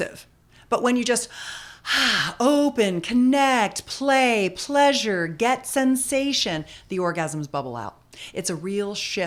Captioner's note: breathing